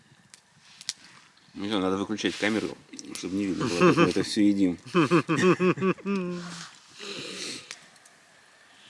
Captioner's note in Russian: смех